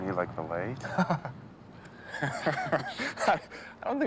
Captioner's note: Gary laughs